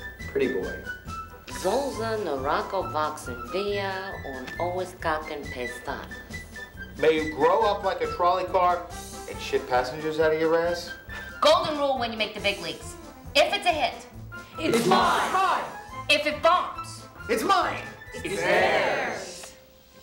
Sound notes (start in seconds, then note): 1.6 in foreign language